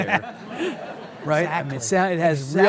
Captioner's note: laughs; audience laughs